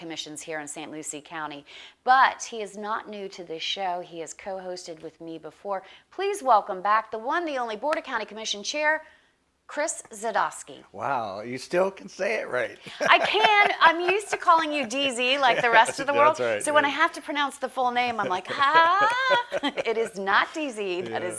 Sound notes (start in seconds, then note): 12.7 laughs